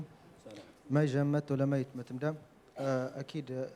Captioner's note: speaking in a Berber dialect